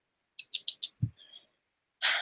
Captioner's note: clicks tongue